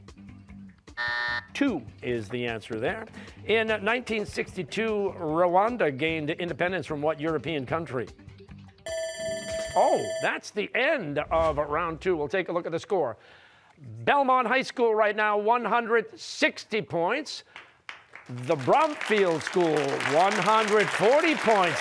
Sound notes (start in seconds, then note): 1.0 buzzer; 8.8 timer sounding